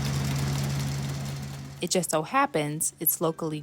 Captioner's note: tractor buzzing